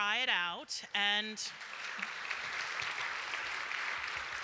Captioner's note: applause